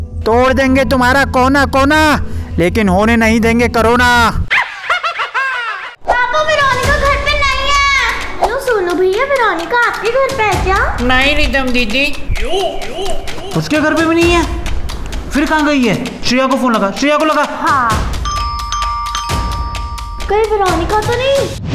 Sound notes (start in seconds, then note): 18.2 door bell ring